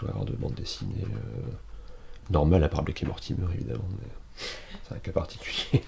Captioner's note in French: rire